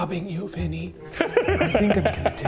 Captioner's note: laughing